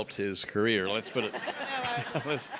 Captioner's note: everyone laughs